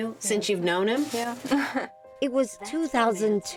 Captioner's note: chuckles